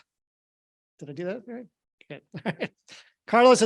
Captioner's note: laughs